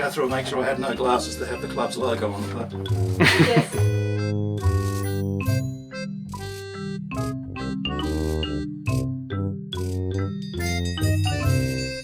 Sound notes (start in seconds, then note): 0.0 laughing; 3.2 laughing; 4.9 curious music